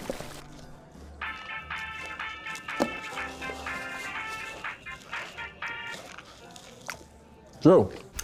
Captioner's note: cell phone rings